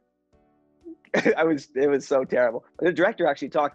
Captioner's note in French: rire